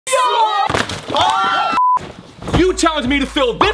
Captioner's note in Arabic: جميع يصيح